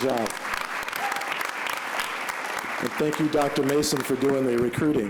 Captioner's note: applause